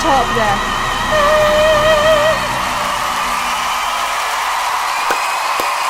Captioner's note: audience cheers and applauds; claps